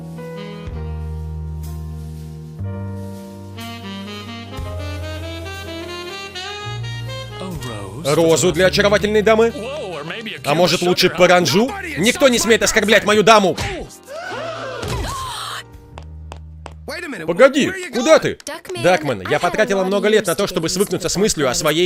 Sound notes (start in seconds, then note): 14.1 people gasping; 15.0 gasps